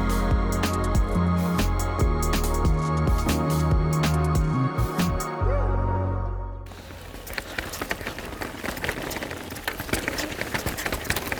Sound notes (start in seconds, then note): 6.6 bikes rattling